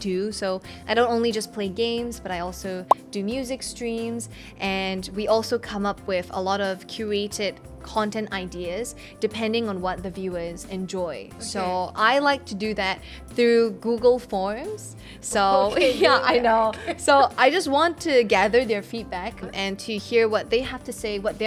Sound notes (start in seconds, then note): 15.7 laugh